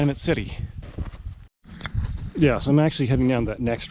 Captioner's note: footsteps thumping